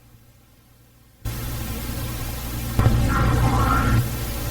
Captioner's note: buzzing